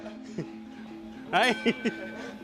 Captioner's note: bell rings